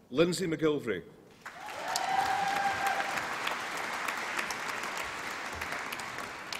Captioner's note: applause and cheering